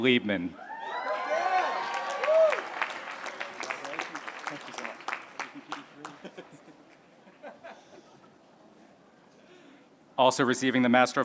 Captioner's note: applause